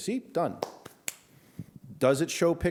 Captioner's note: claps